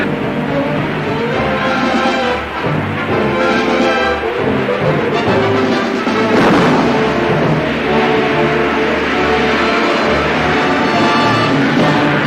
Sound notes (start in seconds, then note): 6.5 jet engine igniting